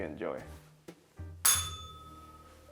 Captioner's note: bell rings